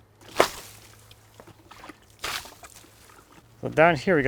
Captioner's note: water splashing